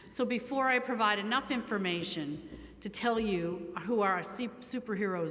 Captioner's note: none